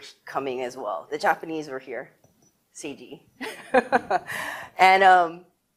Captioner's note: laughs